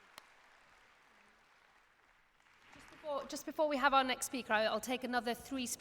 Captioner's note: applause